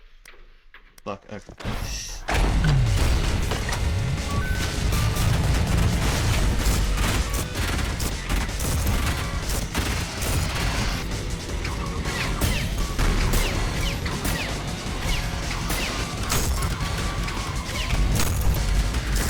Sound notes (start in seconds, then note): 2.4 another sigh